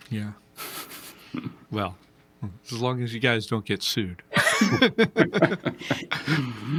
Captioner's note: laughing